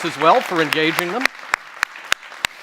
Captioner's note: applause